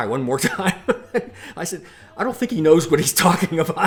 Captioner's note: laughs